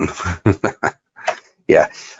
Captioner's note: laughs